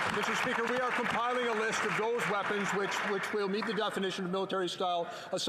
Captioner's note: some Applause